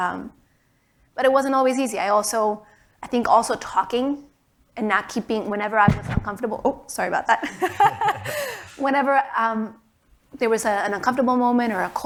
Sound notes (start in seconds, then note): 5.8 mic scrapes; 7.5 laughs